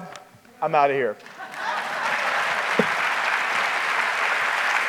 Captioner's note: applause